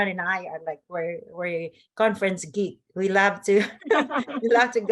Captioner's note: laughs